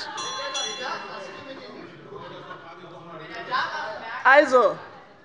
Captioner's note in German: Unruhe - Glockenzeichen des Präsidenten